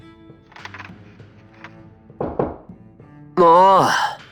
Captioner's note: knock knock